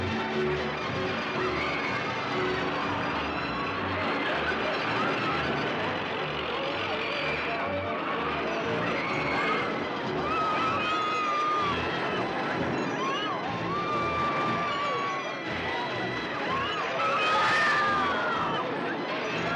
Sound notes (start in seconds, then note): 0.0 jaunty carnival music; 1.4 riders squealing